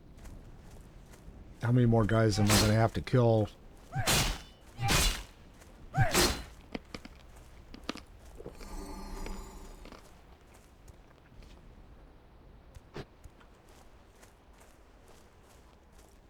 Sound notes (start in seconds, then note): 4.8 gun fires